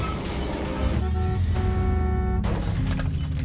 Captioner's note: car horn honks